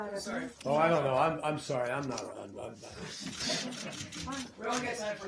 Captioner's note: laughter